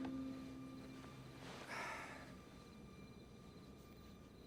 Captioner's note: sighs